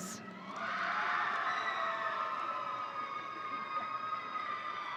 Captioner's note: audience cheering